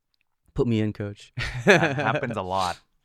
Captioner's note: laughing